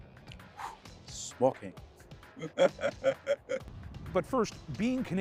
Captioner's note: laughter